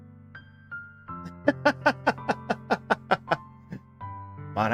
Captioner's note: laughs